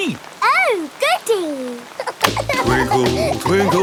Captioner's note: giggling